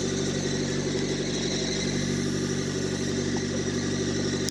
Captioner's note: engine rumbling